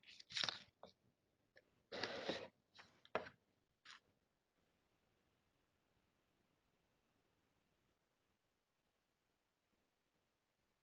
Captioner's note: audio drop out